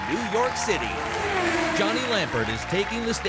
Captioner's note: car whirring